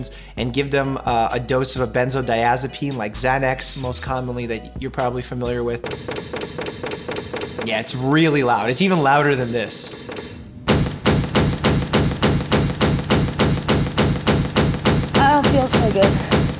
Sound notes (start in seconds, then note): 9.0 loud clicking; 13.0 loud banging